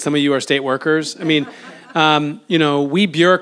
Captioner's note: audience laughs